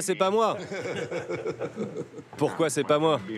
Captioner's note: laughs